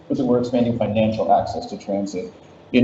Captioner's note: none